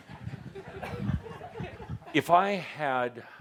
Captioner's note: laughter